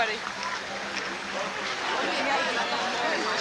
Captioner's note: crowds cheering in distance